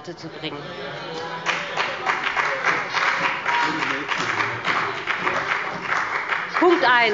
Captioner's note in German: Beifall bei BÜNDNIS 90/DIE GRÜNEN und bei Abgeordneten der CDU